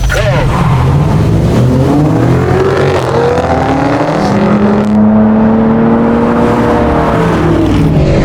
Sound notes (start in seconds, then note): 0.0 accelerating